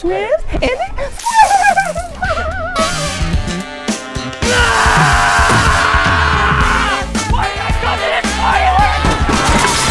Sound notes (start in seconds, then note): 1.2 laughs; 4.4 screams